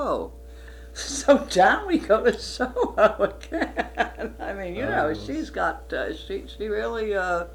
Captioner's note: laughs